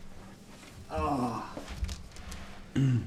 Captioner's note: sighs